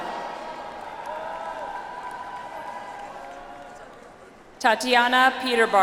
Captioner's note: audience applauds